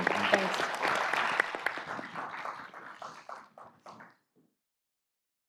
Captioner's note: applause